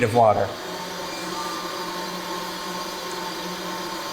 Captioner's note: pipes hum